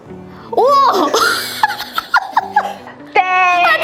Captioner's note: laughter